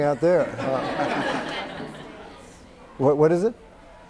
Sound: laughter

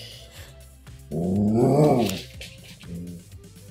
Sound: not so 'Cool' growl

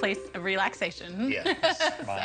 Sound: laughs

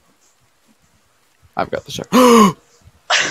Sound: huge gasp

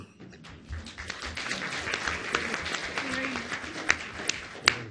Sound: audience applauds

